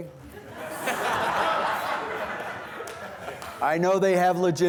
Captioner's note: students laughing